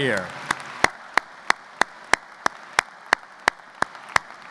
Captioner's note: audience applauds